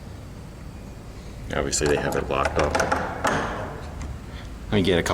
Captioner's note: banging